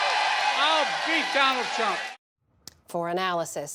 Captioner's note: cheering and applause